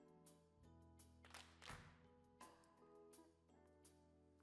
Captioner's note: clap